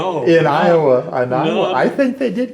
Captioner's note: laughs